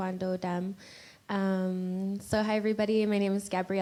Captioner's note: in English